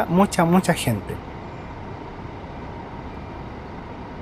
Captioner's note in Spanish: bus maniobrando en Terminal Los Héroes